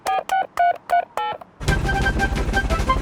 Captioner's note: dialing